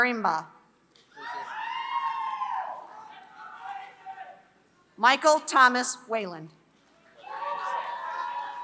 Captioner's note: applause